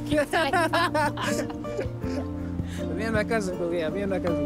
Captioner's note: both laugh